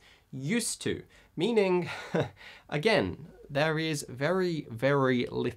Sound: chuckles

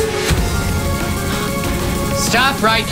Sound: all gasp

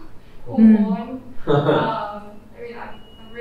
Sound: laughs

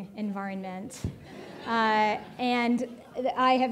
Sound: audience laughing

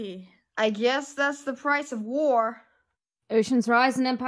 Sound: irritated

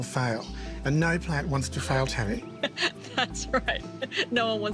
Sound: laughs

